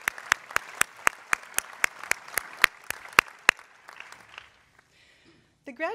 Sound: applause

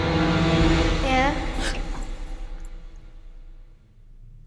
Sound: child's Voice

